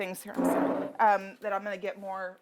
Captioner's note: chair scrapping